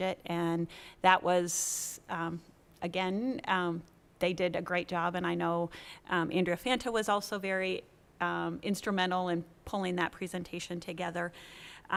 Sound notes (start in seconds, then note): none